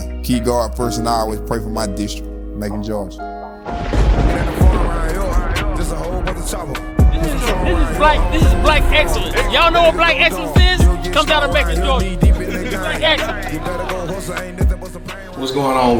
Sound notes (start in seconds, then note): 3.8 rap music; 3.8 thunder crashing; 12.6 man laughing